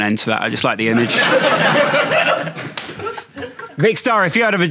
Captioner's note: audience laughing